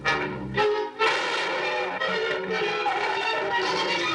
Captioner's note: gunshot